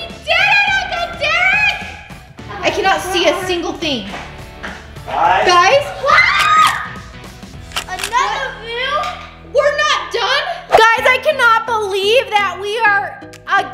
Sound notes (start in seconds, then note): 5.8 children yelling; 7.6 graphics clicking